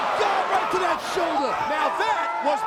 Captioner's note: Carlito shrieking